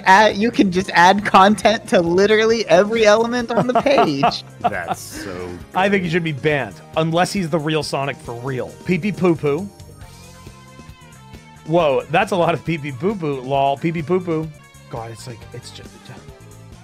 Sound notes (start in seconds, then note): 3.5 laughs